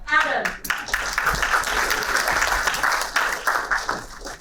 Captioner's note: applauding